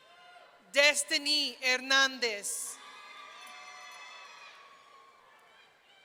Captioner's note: audience cheering